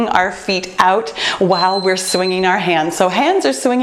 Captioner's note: beeping